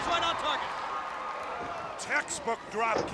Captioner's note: crowd cheers